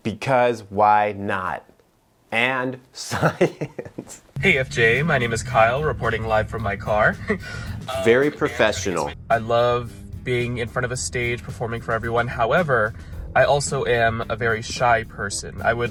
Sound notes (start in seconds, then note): 3.1 laughs